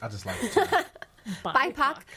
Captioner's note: laughs